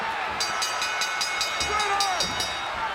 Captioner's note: bell dinging